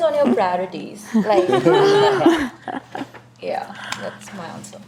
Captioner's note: panelists laugh